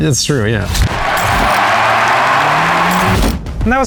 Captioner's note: crowd cheering